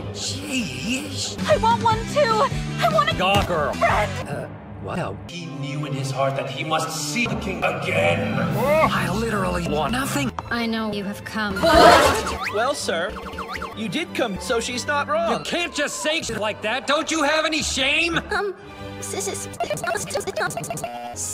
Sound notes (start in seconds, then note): 11.6 goofy sliding noise